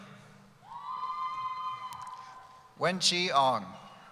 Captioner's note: cheering